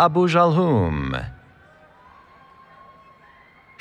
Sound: cheering

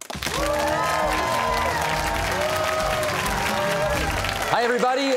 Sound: cheers and applause

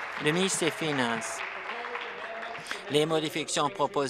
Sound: applause

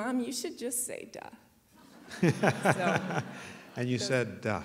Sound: laughter

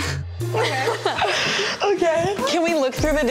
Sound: laughing

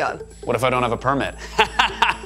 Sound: laughs

